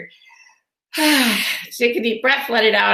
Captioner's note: exhales